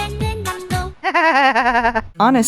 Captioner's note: me giggling